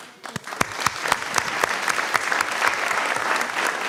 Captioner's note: applause